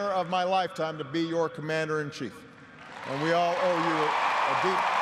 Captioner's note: applause